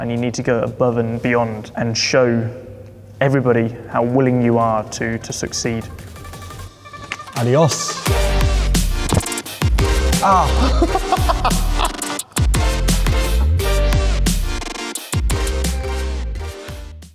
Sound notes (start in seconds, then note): 5.8 upbeat music; 10.2 driver laughs